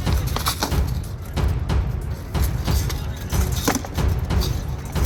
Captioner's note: assorted battle sounds, wood and metal banging; intense drum music